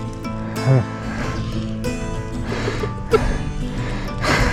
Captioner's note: loughing